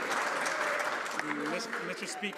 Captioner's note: some Applause